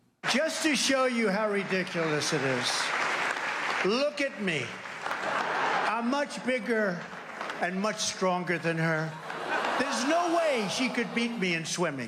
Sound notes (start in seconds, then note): 4.8 crowd cheers, applauds